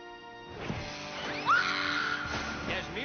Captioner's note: screams